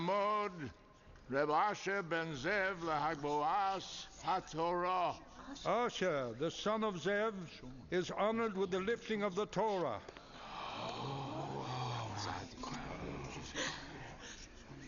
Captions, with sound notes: (speaking Hebrew) - Asher, the son of Zev, is honored with the lifting of the Torah. (crowd murmurs)